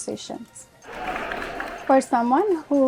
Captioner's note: applause